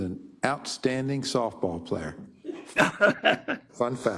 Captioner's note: laugh